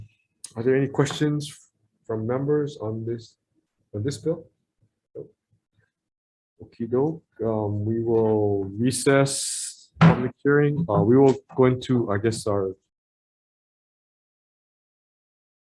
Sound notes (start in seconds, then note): 10.0 hammers the table